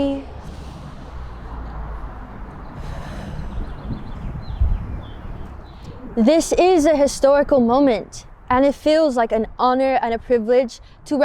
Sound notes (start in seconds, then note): 0.4 inhales audibly; 2.7 exhales audibly